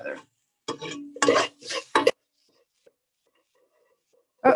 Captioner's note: spoon clanging